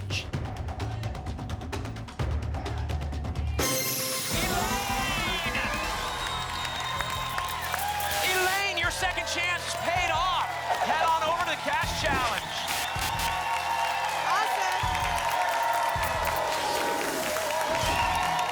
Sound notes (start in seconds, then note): 3.6 ping; 5.3 applause and cheering; 12.4 applause and cheering cont; 15.8 applause and cheering cont; 16.8 whoosh; 18.2 applause and cheering cont